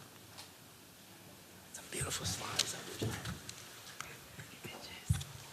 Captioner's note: whispering